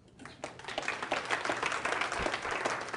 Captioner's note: applause